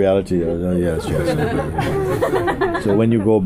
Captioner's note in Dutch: gelach